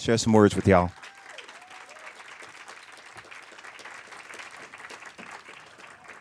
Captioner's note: applause; cheers